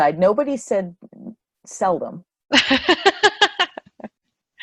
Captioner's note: laughter